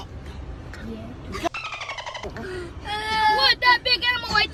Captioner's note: bird chirps